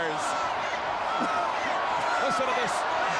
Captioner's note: crowd chattering